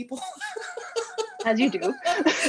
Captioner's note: laughter